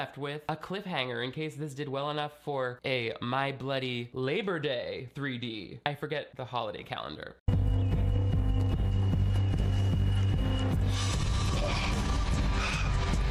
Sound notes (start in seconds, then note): 7.5 dramatic music; 7.8 Tom panting